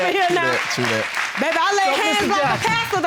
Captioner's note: audience applauding